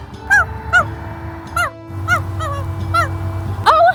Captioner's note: barking sounds